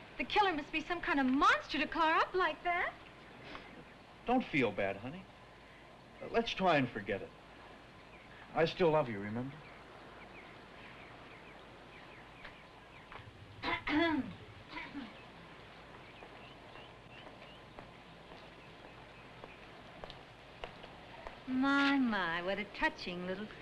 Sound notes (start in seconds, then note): 13.6 Vicki clears throat